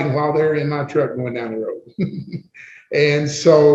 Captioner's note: laughs